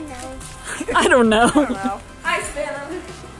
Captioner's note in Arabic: يضحك